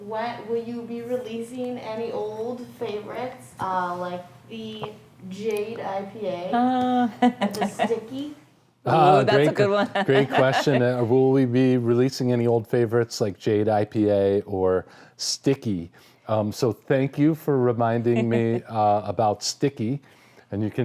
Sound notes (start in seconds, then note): 6.6 laughing